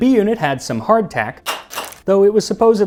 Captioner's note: clack Clack